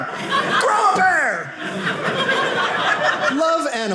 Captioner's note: audience laughing